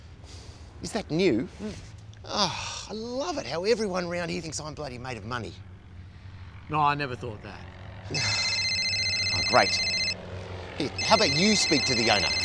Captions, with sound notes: -Is that new? -Mmm. Oh! I love it how everyone round here thinks I'm bloody made of money. -No, I never thought that. -(PHONE RINGS) Oh, great. Here. How about you speak to the owner?